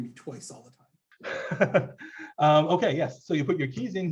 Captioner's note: laughs